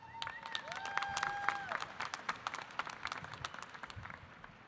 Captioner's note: audience applauding